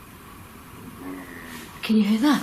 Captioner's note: growling